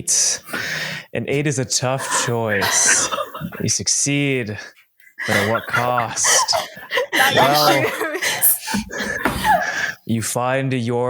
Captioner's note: laughter